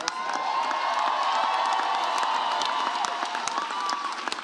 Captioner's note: audience cheers